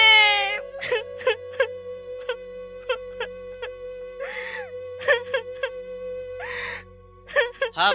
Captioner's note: crying